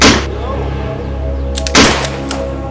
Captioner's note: gun Shot; gun Shots